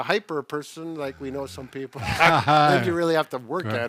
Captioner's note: laughs